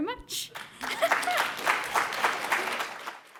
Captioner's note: applause